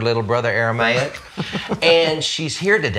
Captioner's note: laughs